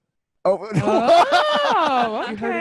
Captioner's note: laughs